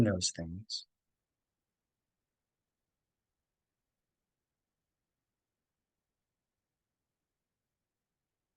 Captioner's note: pause